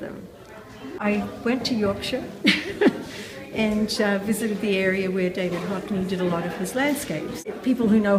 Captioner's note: laughing